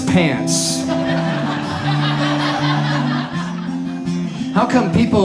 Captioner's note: audience laughs